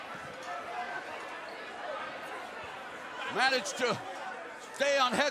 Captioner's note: cheers and applause